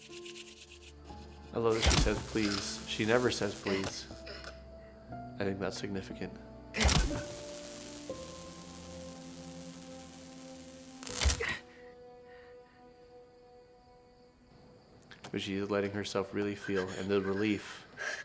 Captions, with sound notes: (electricity crackles) - I love that she says please. She never says please. I think that's significant. (electricity crackles) But she is letting herself really feel, and the relief.